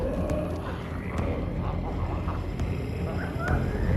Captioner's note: Smelly growling